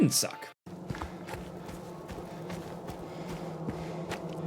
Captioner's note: feet thudding